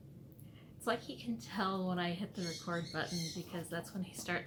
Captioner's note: bird squawking